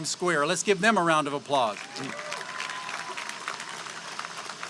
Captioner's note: applause